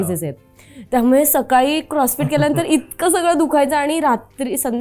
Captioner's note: chuckles